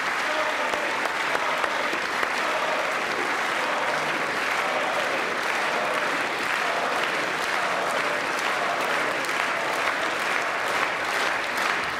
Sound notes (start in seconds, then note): 1.5 applause